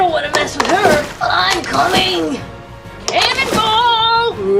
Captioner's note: splashes